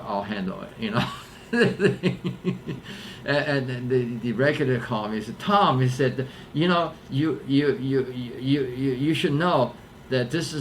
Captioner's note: laughs